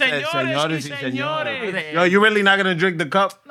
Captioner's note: non-english Speech